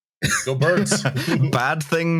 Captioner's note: laughter